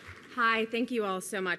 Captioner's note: applause